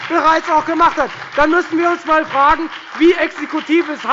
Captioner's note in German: Beifall bei der FDP und bei Abgeordneten der SPD